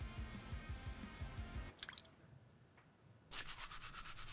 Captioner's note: water dripping; toothbrush scraping